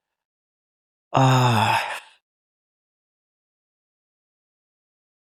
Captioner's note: pause